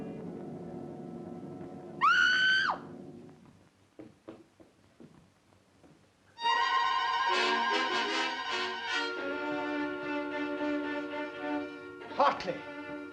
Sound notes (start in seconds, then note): 2.0 screams